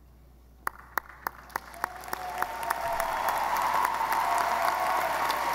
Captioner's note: audience applauding